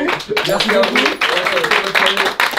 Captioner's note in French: applaudissements